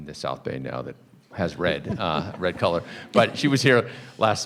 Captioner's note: people chuckling